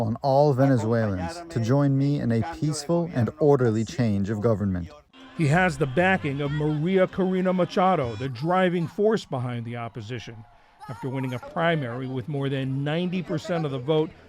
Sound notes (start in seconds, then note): 0.0 through translator; 5.7 voice-over